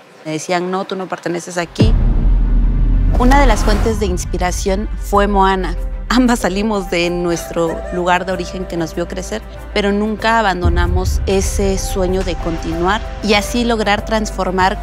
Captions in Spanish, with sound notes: Me decían “no, tú no perteneces aquí”. [ Sonido de tensión ] Una de las fuentes de inspiración, fue Moana. Ambas salimos de nuestro [Risas] lugar de origen que nos vio crecer, pero nunca abandonamos ese sueño de continuar, y así lograr transformar